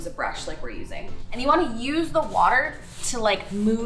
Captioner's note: brush swishing